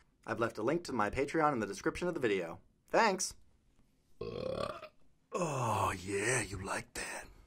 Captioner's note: belch